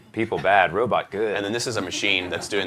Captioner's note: laughter